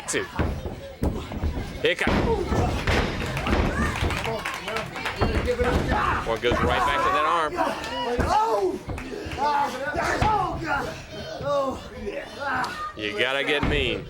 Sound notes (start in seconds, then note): 0.2 crowd cheering; 1.2 crowd chatter; 9.2 crowd cheering